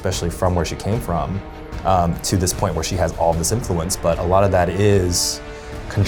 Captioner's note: none